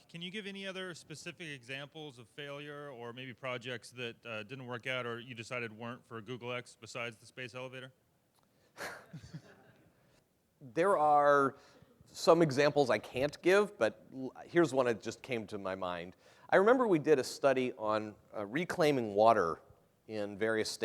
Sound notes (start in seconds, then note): 8.7 laughter